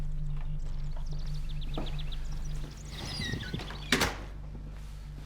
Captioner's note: birds chirping over tense electronic music; door rattling